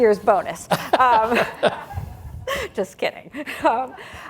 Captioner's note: laughs